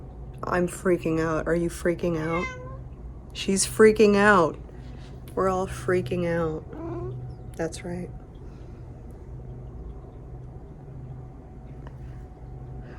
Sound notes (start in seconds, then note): 2.2 meow; 7.9 cat noise